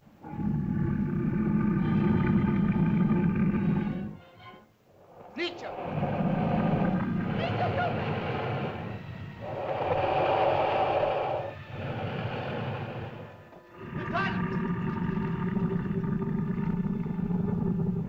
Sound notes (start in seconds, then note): 0.2 loud growling; 0.2 suspenseful music; 5.3 dinosaurs growl; 5.3 speaking in caveman language; 8.0 dinosaurs growl; 8.0 ominous music